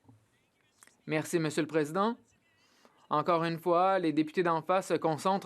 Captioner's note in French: voix de l'interprète